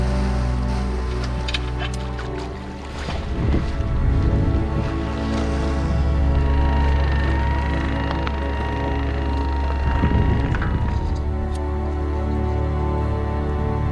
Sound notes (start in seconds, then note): 6.9 machine whirring